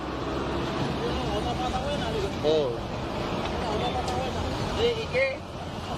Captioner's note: officer speaks in foreign language